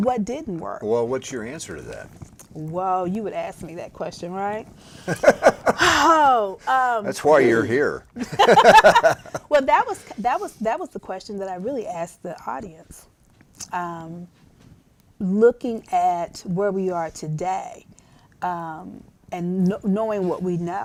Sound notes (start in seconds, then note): 8.2 laughter